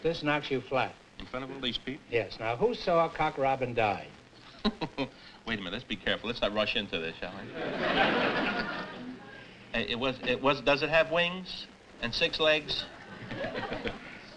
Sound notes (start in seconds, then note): 4.4 laughs; 7.4 laughter